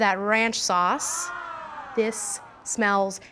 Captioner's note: ahhhhhhhh!